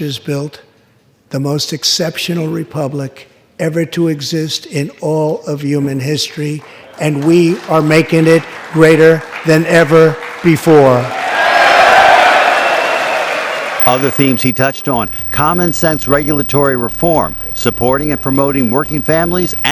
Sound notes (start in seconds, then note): 11.9 applause